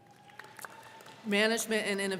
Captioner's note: crowd clapping